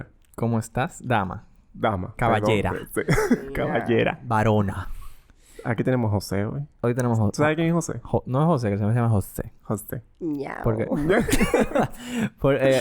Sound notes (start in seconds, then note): 2.3 laughs; 2.8 risas; 9.1 girly voice; 10.9 laughs